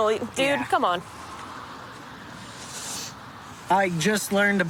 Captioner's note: none